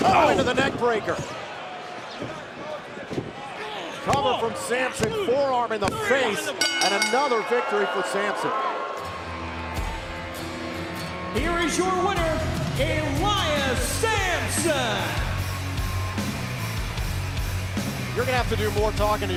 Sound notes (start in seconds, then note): 6.5 bell ringing